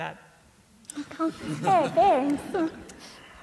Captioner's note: laughter